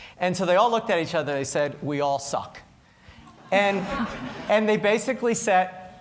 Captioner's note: laughter